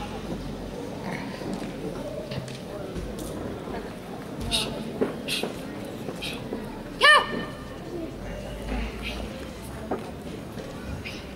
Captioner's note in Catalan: Crits de karate